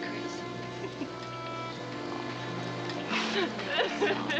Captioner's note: sobbing